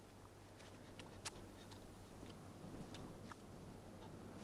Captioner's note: Hundra chewing